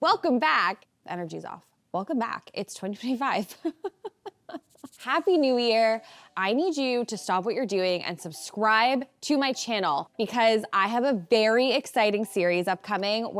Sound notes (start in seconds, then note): 3.5 chuckles